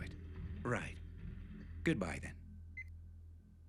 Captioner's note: mobile beeps